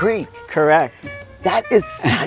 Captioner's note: pat; chuckling